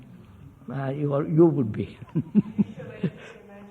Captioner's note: laughs